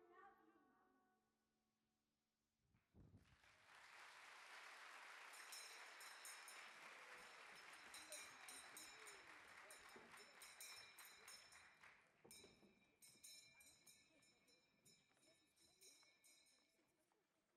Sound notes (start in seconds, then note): 0.3 child's Voice; 3.1 audience applaud; 5.4 bell rings